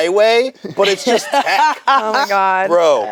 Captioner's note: laughs